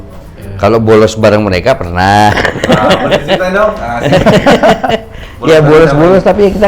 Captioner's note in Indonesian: tertawa